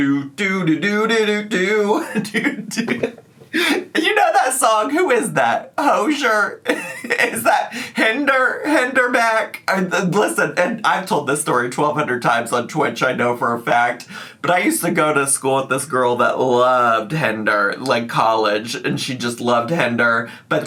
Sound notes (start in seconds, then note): 1.8 laughs; 6.6 laughs